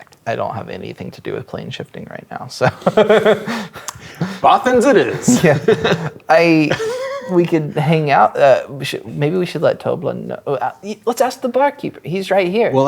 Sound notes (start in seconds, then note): 2.6 laughing; 10.5 stammers